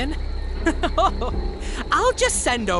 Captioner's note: chuckles